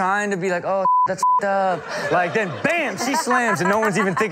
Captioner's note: beep